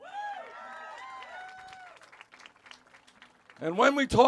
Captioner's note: cheers